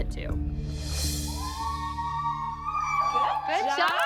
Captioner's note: girls whooping